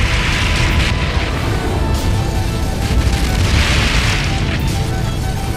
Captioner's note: explosions